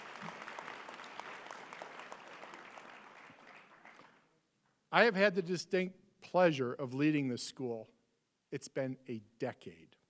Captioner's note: applause